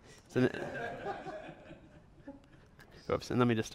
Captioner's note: audience laughter